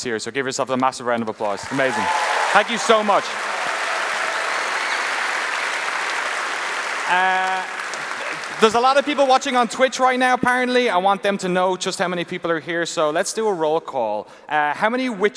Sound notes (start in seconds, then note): 3.9 applause